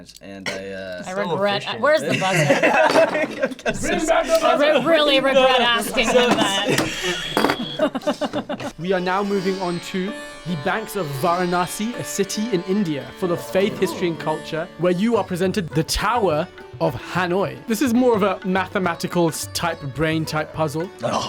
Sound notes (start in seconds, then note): 1.9 guys laugh; 8.0 laughs